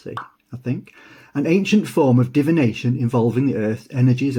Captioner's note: pop sound